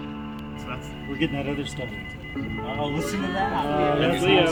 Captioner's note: beeping